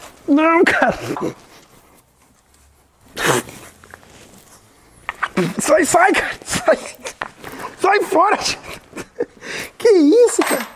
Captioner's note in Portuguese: risos